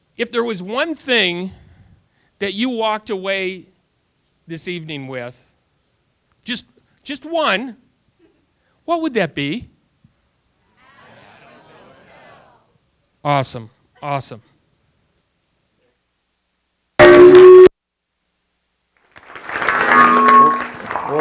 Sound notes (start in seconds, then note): 10.7 audience response; 19.0 audience applause